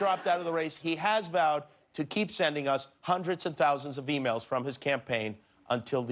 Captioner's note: laughter